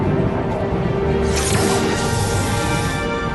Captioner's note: zap